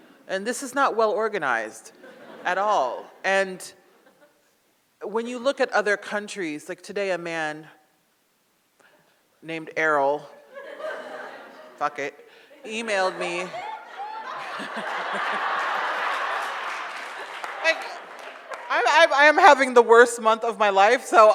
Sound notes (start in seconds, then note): 12.5 audience laughs; 13.6 audience applauds